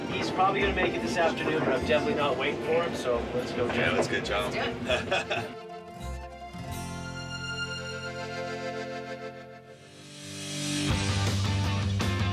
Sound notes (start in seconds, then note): 4.6 laughs